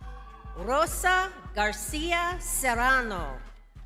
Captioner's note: crowd cheers